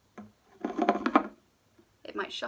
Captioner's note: can scraping